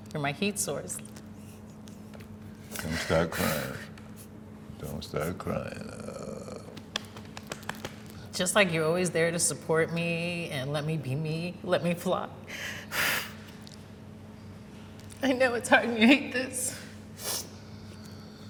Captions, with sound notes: You're my heat source. - Don't start crying. Don't start crying, oh. - Just like you're always there to support me and let me be me, let me fly. (inhales sharply) I know it's hard, and you hate this.